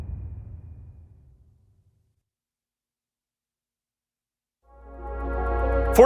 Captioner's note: dramatic sound